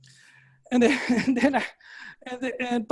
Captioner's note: laughing